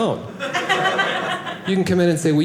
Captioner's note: audience laughing